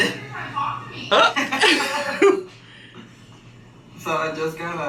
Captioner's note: laughing